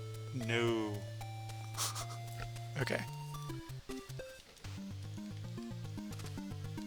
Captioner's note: laughs while writing